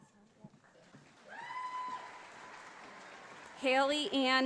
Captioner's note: audience applauding